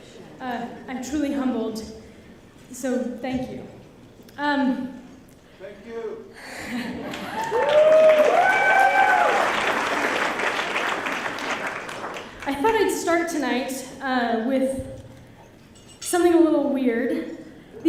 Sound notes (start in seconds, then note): 4.5 applause